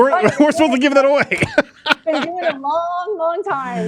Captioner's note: laughing